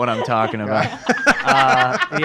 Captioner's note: laughs